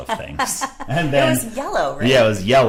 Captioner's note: laughing